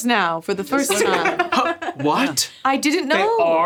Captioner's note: laughing